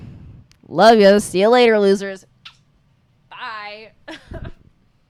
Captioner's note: kisses; laughs